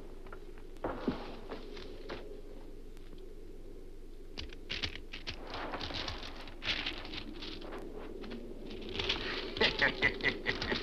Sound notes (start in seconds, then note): 9.5 One Eye cackles